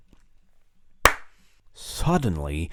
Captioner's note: sound of hands slapping together